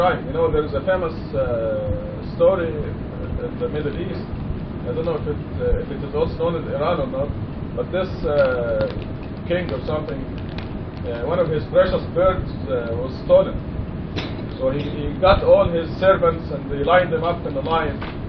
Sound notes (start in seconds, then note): none